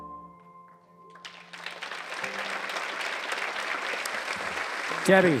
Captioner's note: applause